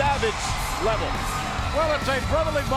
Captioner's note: spectators cheering